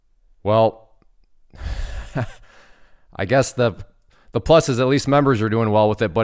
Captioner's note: laughs